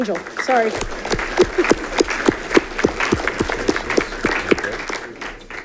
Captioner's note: audience clapping